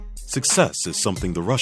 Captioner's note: voiceover